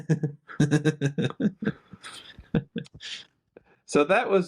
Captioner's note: both laughing